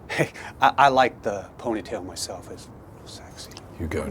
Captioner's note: laughs